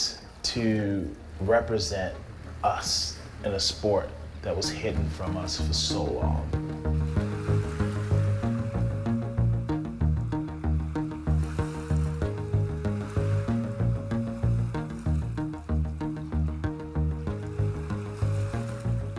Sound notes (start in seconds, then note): 6.9 upbeat music playing; 6.9 waves crashing